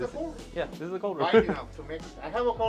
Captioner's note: laughing